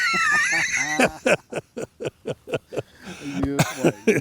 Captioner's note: both laughing